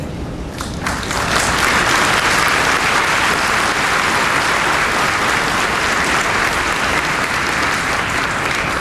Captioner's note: applause